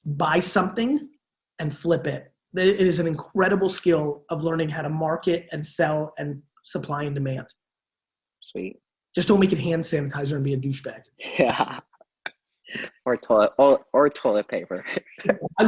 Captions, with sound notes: buy something, and flip it. It is an incredible skill of learning how to market and sell in supply and demand. - Sweet. - Just don't make it hand sanitizer and be a douche bag. (Gary laughs) - Or toilet paper.